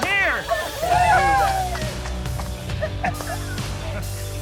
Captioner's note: cheering